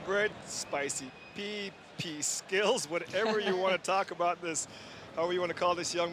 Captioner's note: laughter